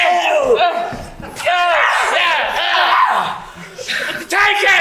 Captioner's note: Meanies scream